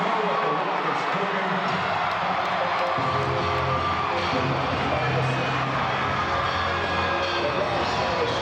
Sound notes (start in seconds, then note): 1.9 upbeat music; 2.1 crowd cheering